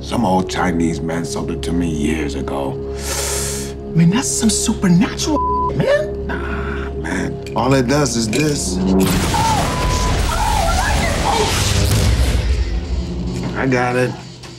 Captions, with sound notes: - Some old Chinese man sold it to me years ago. - I mean, that's some super natural (beep) man. - Nah, man, all it does is this. (Rumbling) - Oh (beep) oh lightning, Oh. - I got it.